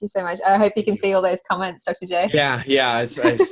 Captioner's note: laughs